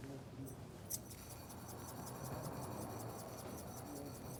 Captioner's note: saltshaker rattling